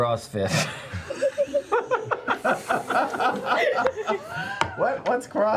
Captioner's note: laughter